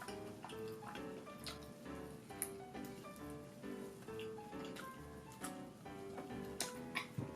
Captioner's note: someone eats well